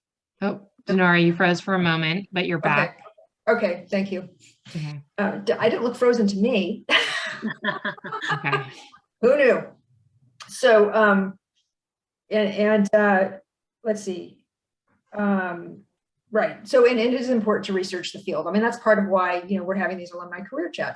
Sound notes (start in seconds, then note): 7.0 laughs